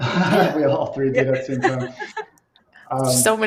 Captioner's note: laughs